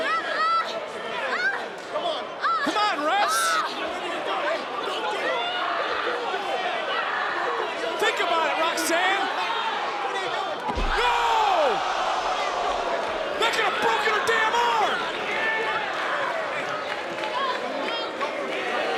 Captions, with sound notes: Come on, refs! Don't do it! Think about it, Roxanne! No! (crowd oohs) That could've broken her damn arm! (crowd boos)